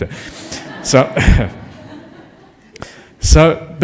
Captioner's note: laughter